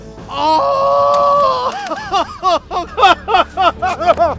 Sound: crying

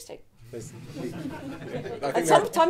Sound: audience laughing

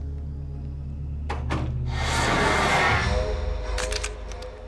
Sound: magical noises; camera snappng

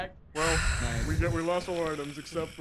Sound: sigh

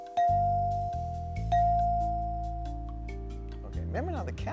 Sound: dinging

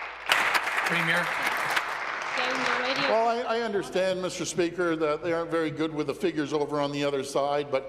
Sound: applause

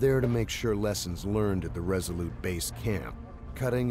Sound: voiceover

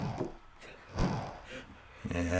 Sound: Finebros suppresses laughter

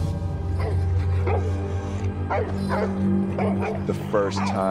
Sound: dog barks

